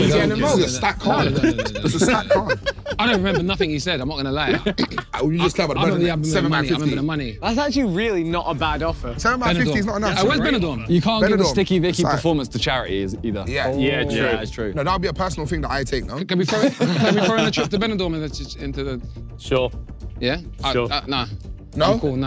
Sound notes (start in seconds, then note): 16.5 everyone laughing